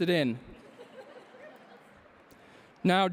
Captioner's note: laughter